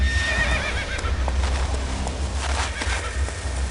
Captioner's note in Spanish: Relinchos